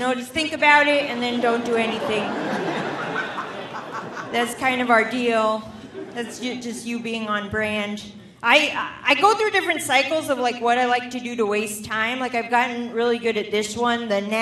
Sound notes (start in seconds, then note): 2.6 audience laughing